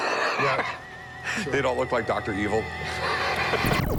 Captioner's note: chuckling